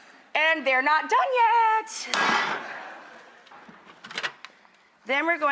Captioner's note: audience laughs